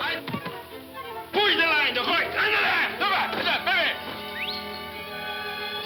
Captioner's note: man shouting; whistles